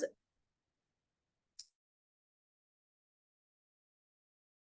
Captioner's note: audio cuts out